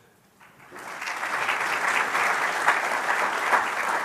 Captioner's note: applause